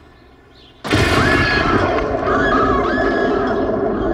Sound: glass crashes; Mother Screams

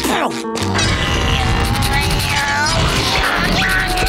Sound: grunting

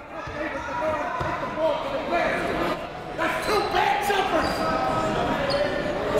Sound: crowd talking; coaches yelling

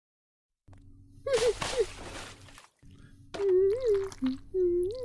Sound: soup splashing

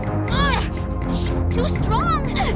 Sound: straining

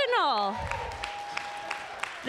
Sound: applause

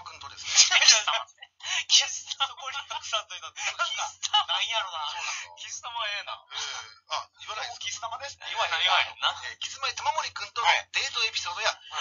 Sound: laugh

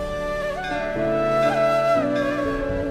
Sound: bells tolling

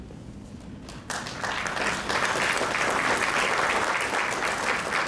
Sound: crowd clapping

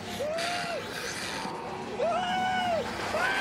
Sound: shrieking; screaming

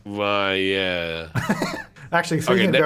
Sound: laughing

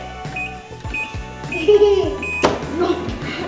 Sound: beeping

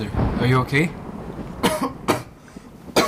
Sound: coughing

